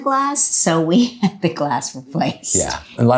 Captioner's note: chuckles